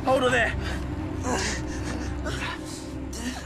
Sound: Sam screams

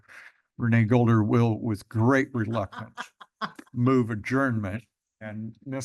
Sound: laughter

